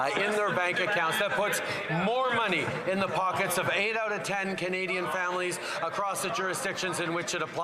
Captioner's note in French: voix de l'interprète